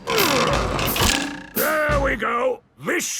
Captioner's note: wood creaking; boings